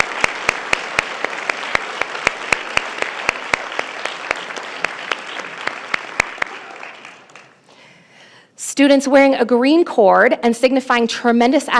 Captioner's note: applause